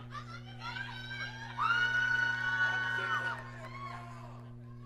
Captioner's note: audience cheering